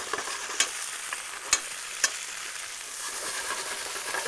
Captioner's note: pan sizzling